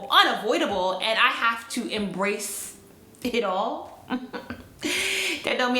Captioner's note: chuckles